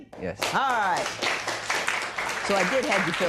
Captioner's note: applause